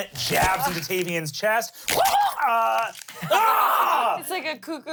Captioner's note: squawks